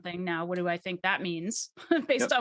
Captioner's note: chuckles